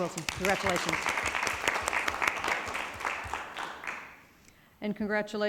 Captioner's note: people clapping